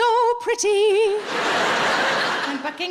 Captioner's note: audience laughs